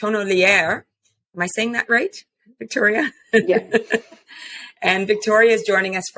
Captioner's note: laughs